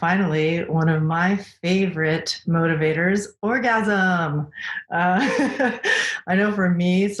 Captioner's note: laughs